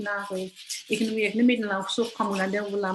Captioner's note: foreign language